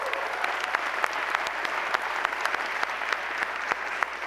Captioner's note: applause